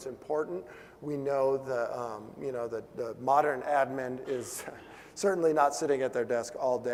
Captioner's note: laugh